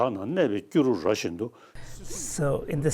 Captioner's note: speaking Tibetan